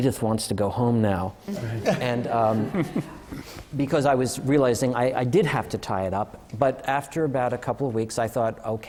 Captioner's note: laughter